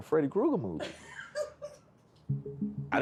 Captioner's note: laughing